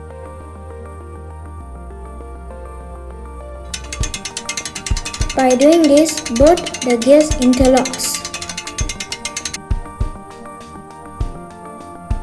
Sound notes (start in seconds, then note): 0.0 🎶 soft music playing 🎶; 3.7 gear cranking sound